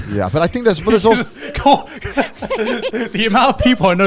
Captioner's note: everyone laughing